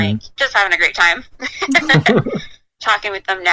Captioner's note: laughs